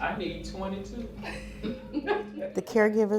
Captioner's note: person chuckling